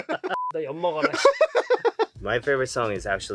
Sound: speaking in Korean

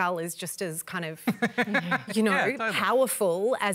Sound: laughs

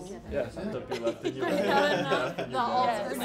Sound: laughing

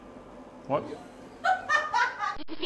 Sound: laughs

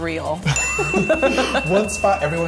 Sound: bell dinging

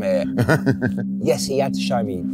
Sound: chuckling

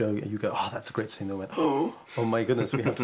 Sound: gasps

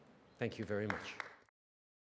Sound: applause

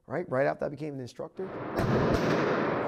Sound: gun firing

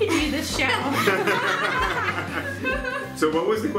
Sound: laughing

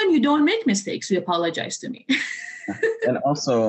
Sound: laughter

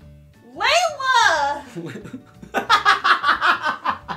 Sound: laughing

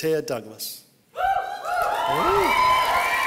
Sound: cheering

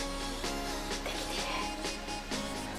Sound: whispering

